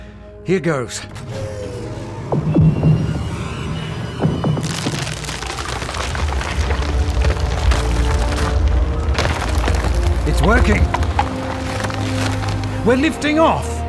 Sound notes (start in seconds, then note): 1.1 Adam's engines start; 4.0 ice breaks